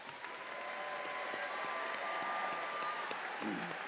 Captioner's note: audience cheering